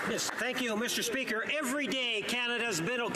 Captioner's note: applause